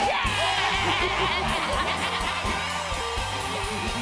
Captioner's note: evil laughter